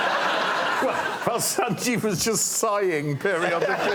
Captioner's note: laughter